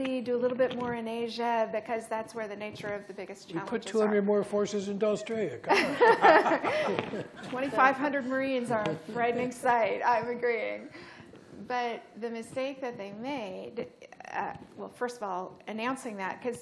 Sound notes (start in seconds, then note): 5.7 laughter